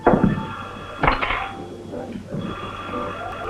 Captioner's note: phone rings